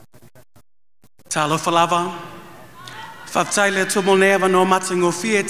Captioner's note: speaking in another language